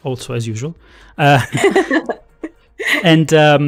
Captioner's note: laughter